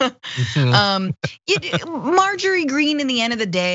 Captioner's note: laugh